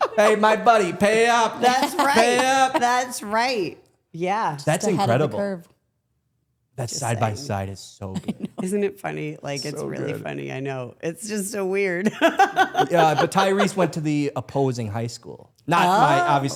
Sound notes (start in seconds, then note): 12.1 laughs